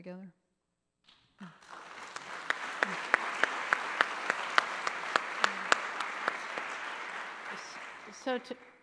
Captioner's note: applause